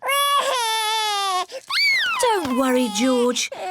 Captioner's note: cries